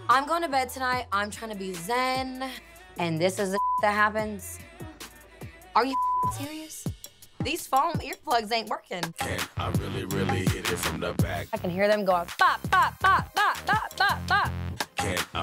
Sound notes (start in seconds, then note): 3.6 beep; 5.8 beep